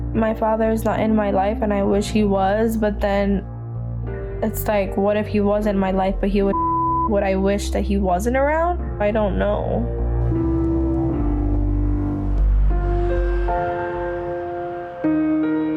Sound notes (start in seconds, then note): 6.5 beep; 12.4 mellow piano music